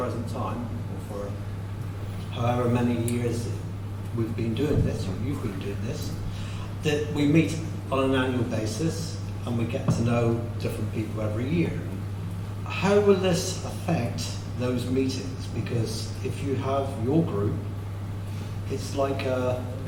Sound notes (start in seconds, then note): none